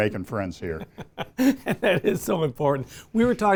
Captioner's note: laughs